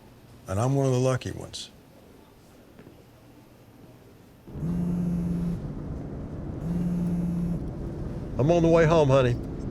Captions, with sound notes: And I'm one of the lucky ones. [PHONE VIBRATING] I'm on the way home, honey.